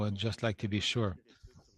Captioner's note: speaking French